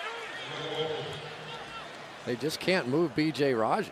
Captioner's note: pa announcement